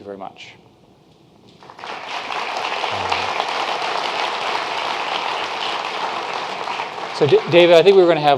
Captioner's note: claping